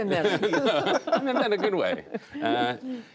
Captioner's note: laughter